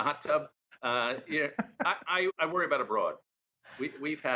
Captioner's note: laughter